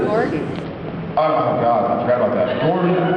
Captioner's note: laughs